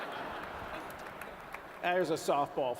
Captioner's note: laughter